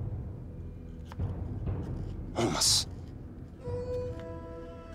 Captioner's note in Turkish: Takırtı Sesleri